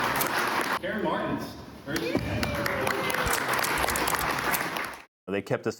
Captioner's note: applause; applause